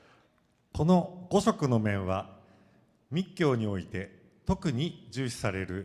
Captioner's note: speaking foreign language